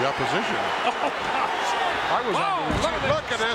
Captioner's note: chuckles